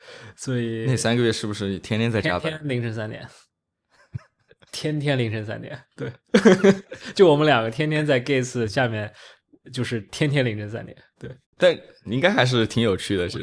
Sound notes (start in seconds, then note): 3.8 laughs; 6.3 laughs